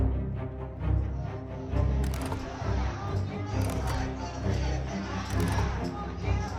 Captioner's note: overlapping angry crowd chants